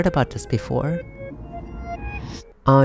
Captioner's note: time rewind sound effect